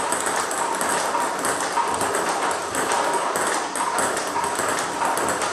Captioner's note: ball ping pong hitting continues